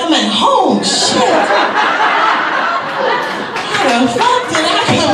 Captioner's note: audience laughs